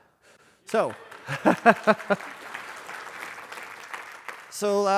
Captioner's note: applause